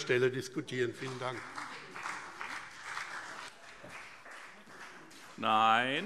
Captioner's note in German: Beifall BÜNDNIS 90/DIE GRÜNEN und vereinzelt CDU